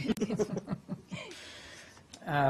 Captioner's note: laughter